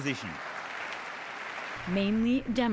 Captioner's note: applause